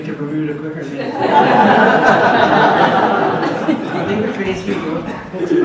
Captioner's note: audience laughs